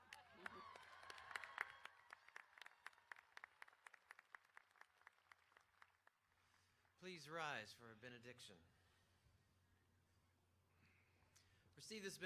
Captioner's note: applause